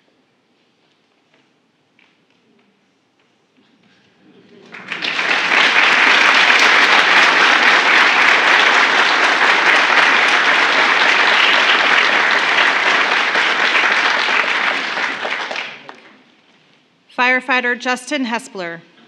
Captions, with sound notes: (Applause.) Firefighter Justin Hespeler.